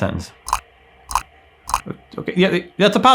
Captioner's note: numbers clicking